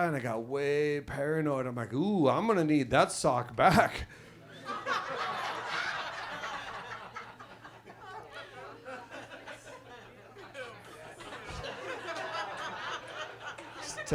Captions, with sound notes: and I got way paranoid. I'm like, ooh, I'm gonna need that sock back. (audience laughs)